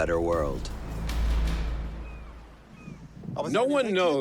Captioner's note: seagulls caw